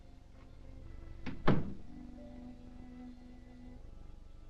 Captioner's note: gentle somber music; door thudding